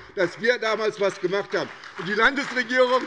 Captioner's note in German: Beifall bei der SPD